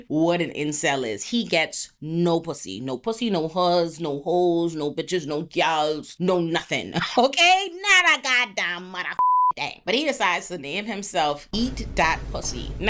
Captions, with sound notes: what an incel is. He gets no pussy. No pussy, no huzz, no hoes, no bitches, no gals, no nothing, okay? Not a goddamn mother (beep) day. But he decides to name himself Eat.Pussy.